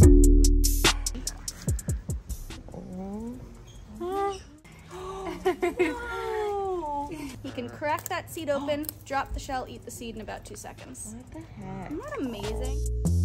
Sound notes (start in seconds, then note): 3.8 gasps